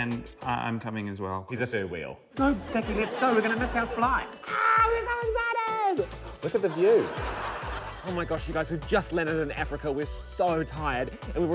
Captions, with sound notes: - And I'm coming as well. - He's a third wheel. Go, Sacky. Let's go! We're gonna miss our flight. - Ah, we're so excited! Look at the view. - (LAUGHTER) Oh, my gosh, you guys. We've just landed in Africa. We're so tired.